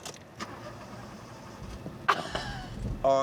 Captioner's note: engine fails to start